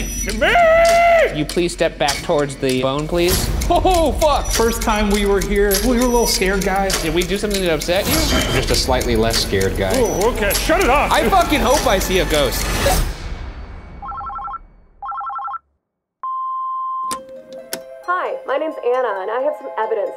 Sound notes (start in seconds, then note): 15.0 phone ringing; 16.3 machine beeping; 17.2 slow tense music